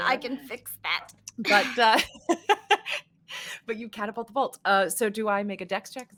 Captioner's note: laughing